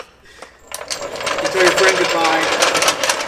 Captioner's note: loud metallic scraping